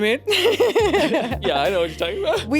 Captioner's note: laughs